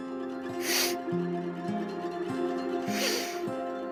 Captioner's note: sniffles